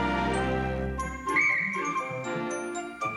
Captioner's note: blows whistle